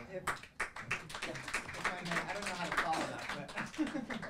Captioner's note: audience applauding